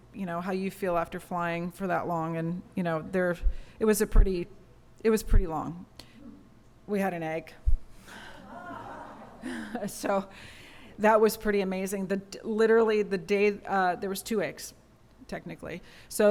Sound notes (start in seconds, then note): 8.2 laughter